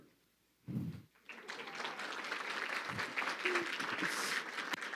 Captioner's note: crowd clapping